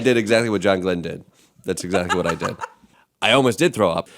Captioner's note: laughter